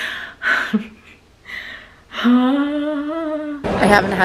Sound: sighing

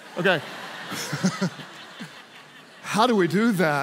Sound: congregation laughs

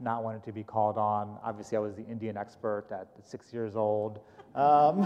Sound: laughter

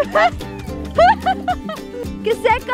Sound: laughing

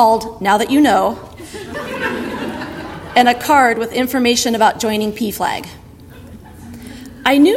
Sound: audience laughter

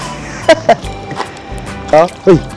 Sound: laughs

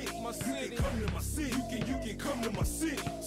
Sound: people talking

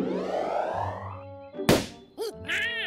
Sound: pop

